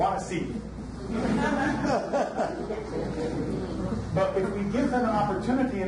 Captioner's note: audience laughs